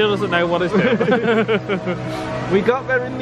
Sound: pair laughs

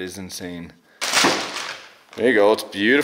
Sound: plastic rustling

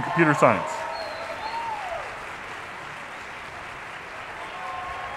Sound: audience applauding

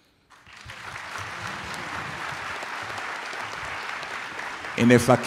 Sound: applauding

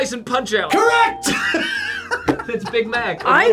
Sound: laughs

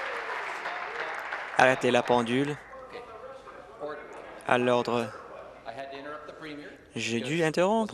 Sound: applause

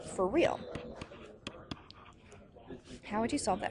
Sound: tapping

